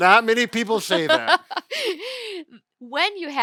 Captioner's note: laughing